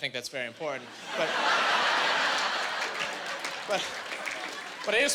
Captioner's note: laughing